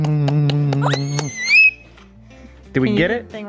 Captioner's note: lips clicking; coos